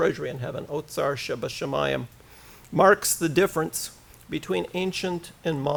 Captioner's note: foreign language